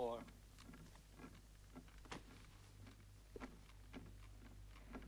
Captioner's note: cradle rocking